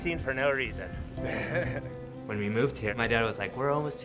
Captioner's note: people laughing